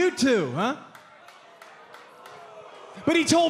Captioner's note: crowd cheering